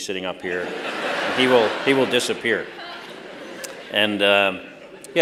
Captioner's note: laughter